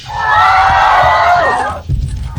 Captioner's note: cheering sound